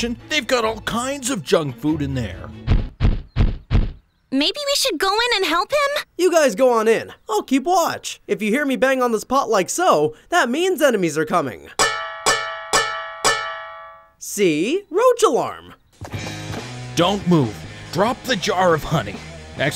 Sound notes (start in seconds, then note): 2.7 Tanner thudding; 11.8 pot clanking; 16.0 upbeat rock music